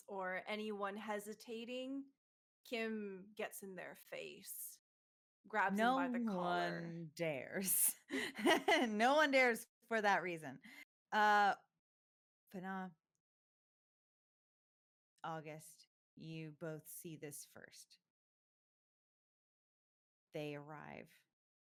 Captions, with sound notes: or anyone hesitating, Kim gets in their face, grabs 'em by the collar. - No one dares. (chuckles) No one dares for that reason. Fanaa, Auguste, you both see this first. They arrive,